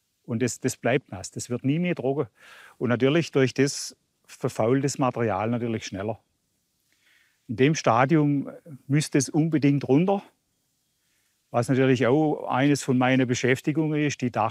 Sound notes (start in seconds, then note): none